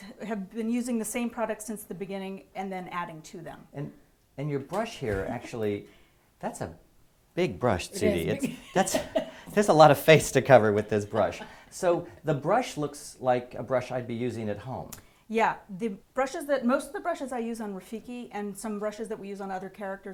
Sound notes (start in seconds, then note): 8.1 laugh